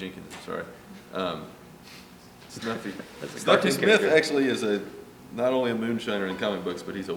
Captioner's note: laughs